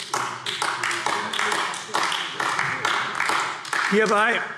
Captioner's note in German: Beifall AfD